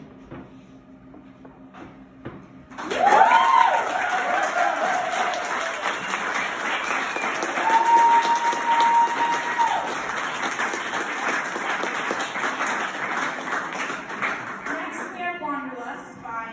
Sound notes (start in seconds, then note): 2.8 wooooooooooooo; 5.5 clapclapclap; 7.5 wooooooooooo; 11.5 cllllllllaaaaaaaaaaaaappppppppp